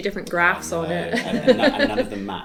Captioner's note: laughs